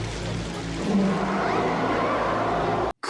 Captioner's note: echoing roar